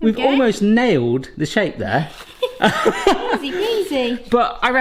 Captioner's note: laughter